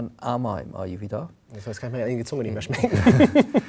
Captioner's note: giggles